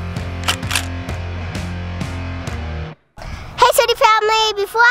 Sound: clicking

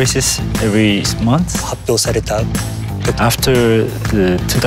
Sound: speaks in foreign language

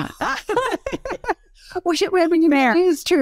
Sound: laugh

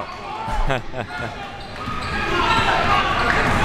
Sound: laughs

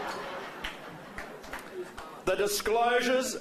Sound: laughter

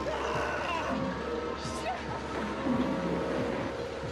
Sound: yelling

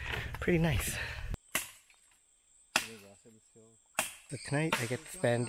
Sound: sound of chopping wood

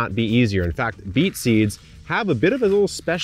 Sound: seeds rustling

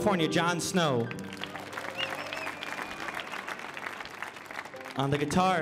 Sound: audience applauding

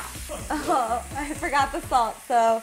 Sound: crew member laughing

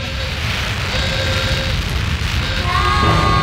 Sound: steaming; screaming

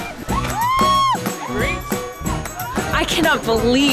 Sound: people yelling

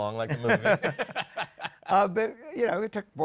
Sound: laughter

